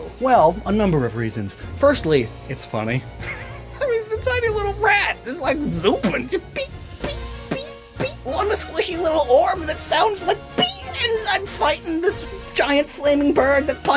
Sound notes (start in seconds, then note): 4.0 laughingly